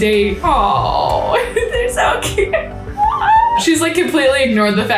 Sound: laughs

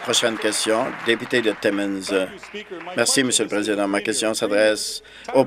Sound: applause

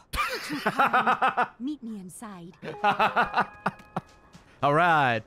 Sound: laughs

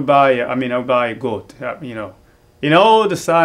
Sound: speaks in Kinyarwanda

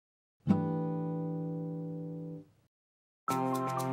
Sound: chime sounds; upbeat music

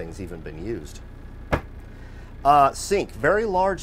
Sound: cupboard closing

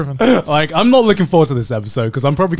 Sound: laughs

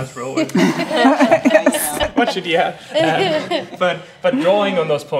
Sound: laughs

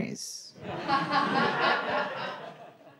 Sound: audience laughing

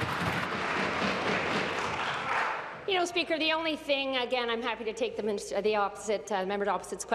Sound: applause

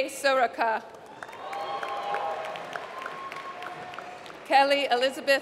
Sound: applause

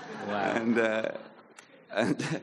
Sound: audience laughing

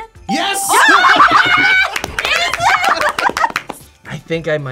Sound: both laugh

